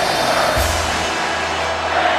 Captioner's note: audience clapping